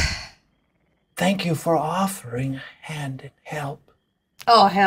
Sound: hoarse voice

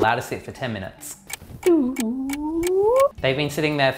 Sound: clock ticking

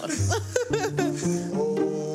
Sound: laughing

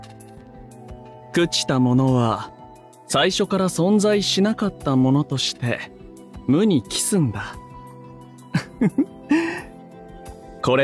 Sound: chuckle

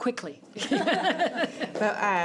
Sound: audience laughs

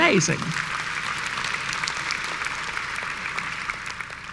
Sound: applause

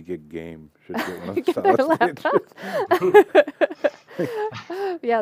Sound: laughter

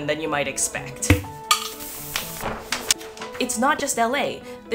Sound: tube pops; paper rustling

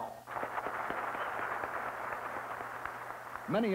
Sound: applause

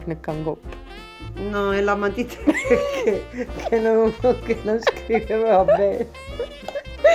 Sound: laughs

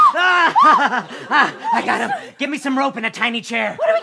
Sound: laughter

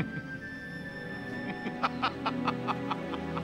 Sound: laughs

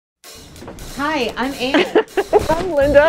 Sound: laughing

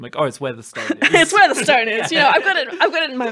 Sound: laughing

